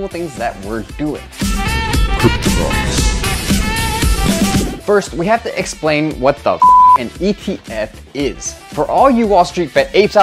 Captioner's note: beep